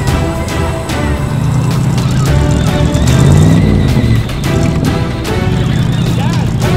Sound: dramatic music; loud engine noise

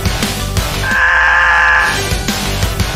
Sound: Music Pauses while Flying Wolf on the Screen is Screaming

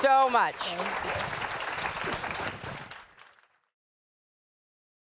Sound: applause

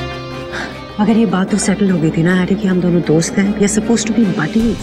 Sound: gasps

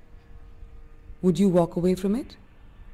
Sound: airplane engine roaring

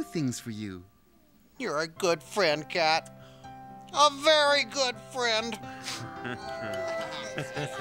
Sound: sniff

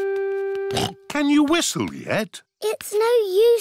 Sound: snorts

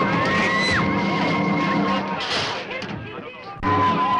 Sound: screaming

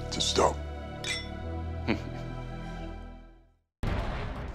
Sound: chuckles

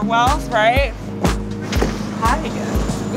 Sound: door slam

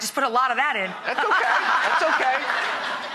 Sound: audience laughs

